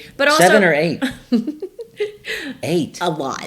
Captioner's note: laughs